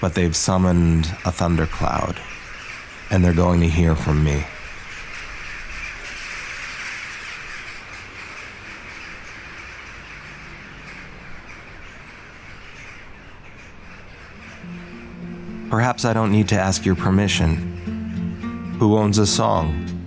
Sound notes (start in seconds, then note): 6.2 birds chirping; 15.6 upbeat music